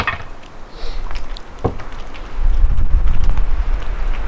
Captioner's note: tools clanging